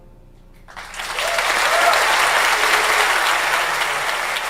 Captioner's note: audience applauds